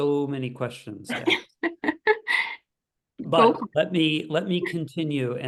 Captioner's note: laugh